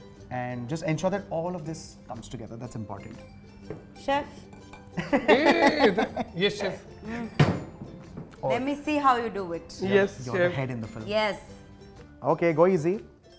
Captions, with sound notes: And just ensure that all of this comes together, that's important. Chef? -[Chuckles] -Yes, chef? -Let me see how you do it? -Oh -You are the head in the film? -Yes. -Yes, chef. Okay, go easy.